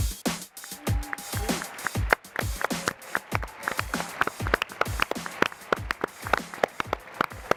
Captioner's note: upbeat music; applause